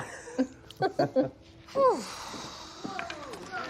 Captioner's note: laughs; exhales